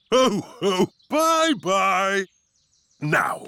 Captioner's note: laughs